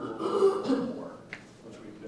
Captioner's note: coughing